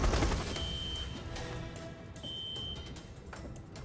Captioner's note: alarm blaring